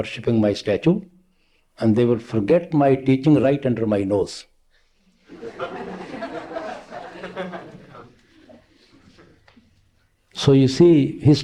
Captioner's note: laughter